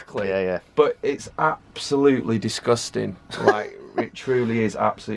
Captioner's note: laughs